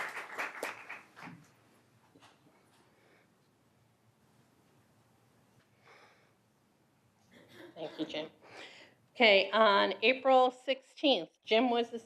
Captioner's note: applause